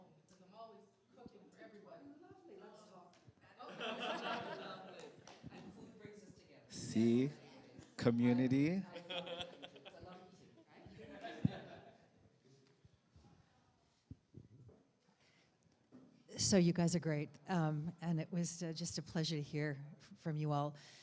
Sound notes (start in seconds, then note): 3.6 laughter